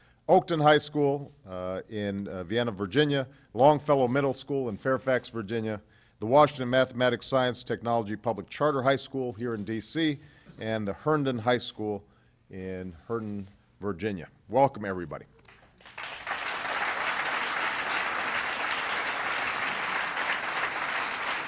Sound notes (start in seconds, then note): 18.5 applause